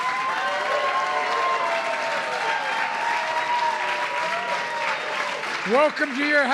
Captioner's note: applause